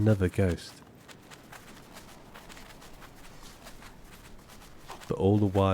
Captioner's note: footfalls rapidly crunching